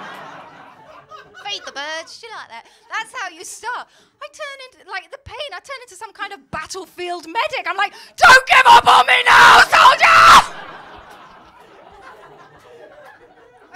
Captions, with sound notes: [LAUGHTER] [COCKNEY ACCENT] ‘Feed the birds, do you like that?’ That’s how you start. I turn into... The pain, I turn into some kind of battlefield medic. I’m like... ‘Don’t give up on me now, soldier!’ [LAUGHTER]